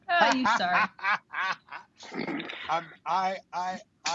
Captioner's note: laughs